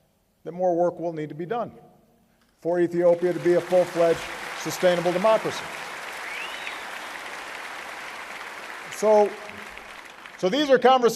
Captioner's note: applause